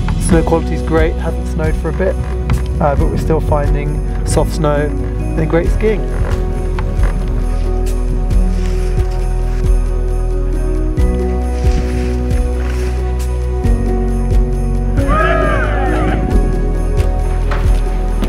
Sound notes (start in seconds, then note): 6.1 gentle music; 11.4 skis whooshing; 15.0 skiers cheering